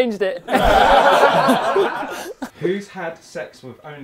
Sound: people laughing

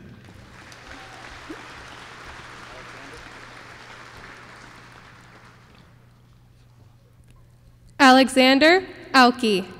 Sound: applause

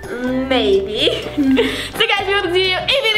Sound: laughs

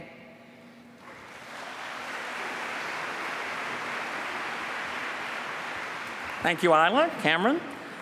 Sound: applause

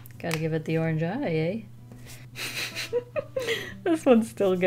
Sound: chuckles

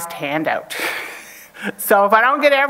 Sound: chuckles

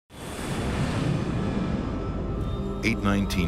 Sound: engine hums

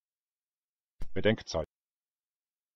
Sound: fast Pronunciation

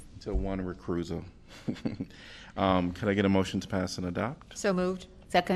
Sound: laughter

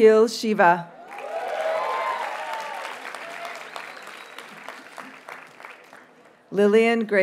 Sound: audience cheers and applauds

